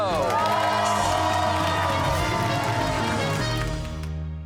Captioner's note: cheers and applause